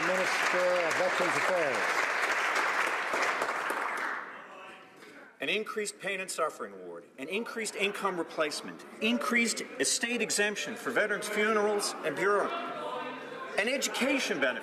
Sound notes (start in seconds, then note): 1.9 some Applause